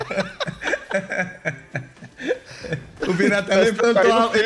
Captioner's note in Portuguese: risos